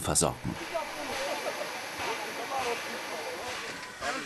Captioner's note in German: Regelmäßiges Zischen, Stimmengewirr